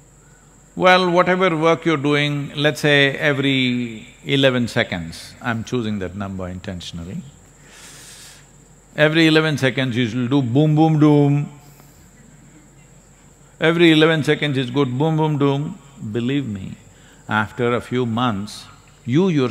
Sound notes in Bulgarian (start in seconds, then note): 11.7 смях в публиката